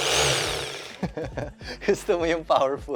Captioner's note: laughs